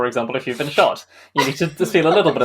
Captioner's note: laughs